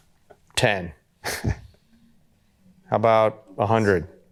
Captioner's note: chuckles